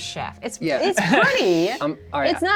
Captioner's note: laughs